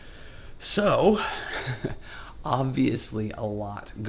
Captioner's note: laughs